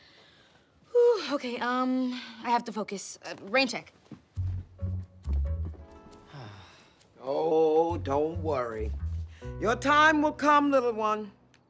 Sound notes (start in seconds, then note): 0.0 breathing deeply; 6.2 sighs